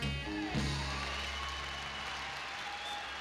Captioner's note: applause